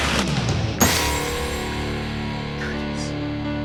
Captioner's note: suspenseful music; dramatic music; glass shattering